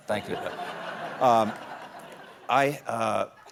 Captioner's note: laughter